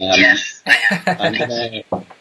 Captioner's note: laughs